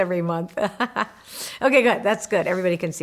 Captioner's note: laughing